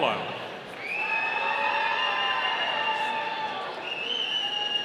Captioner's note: audience cheering